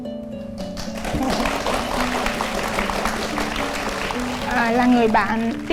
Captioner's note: applause